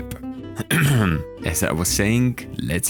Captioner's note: clears throat